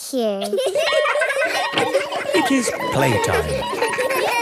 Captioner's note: laughter; school bell ringing